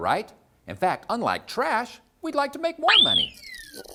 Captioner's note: whistle